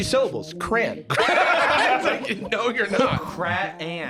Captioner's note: all laughing